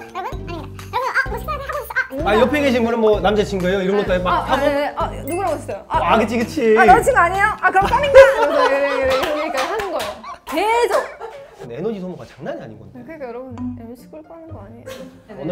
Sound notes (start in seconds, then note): 5.2 ping; 5.2 pong